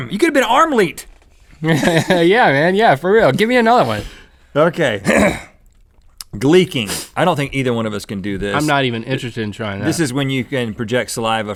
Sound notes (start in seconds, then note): 1.6 laughs; 5.0 clears throat